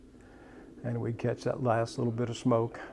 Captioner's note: none